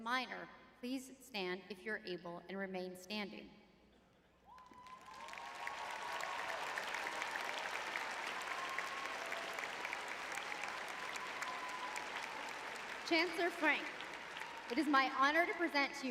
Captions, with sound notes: minor please stand if you're able, and remain standing? [audience cheering] Chancellor Frenk, it is my honor to present